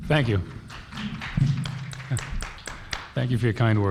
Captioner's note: applauding